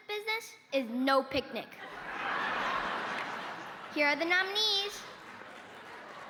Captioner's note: cheers and applause